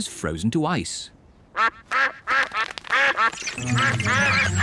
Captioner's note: all quack